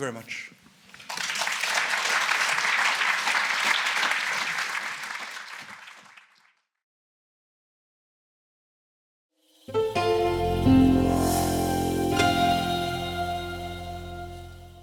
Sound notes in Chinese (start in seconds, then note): 0.7 鼓掌